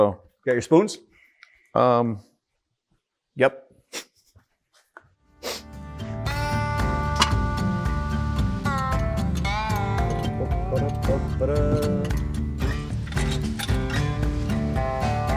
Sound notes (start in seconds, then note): 4.2 snickering; 6.7 gentle western music